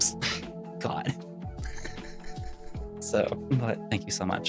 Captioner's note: laughs